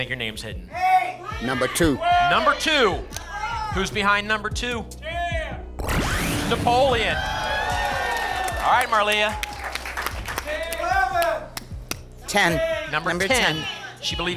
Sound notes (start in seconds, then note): 6.9 applause and cheering; 10.3 audience shouting numbers